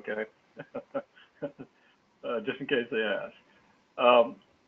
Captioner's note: laugh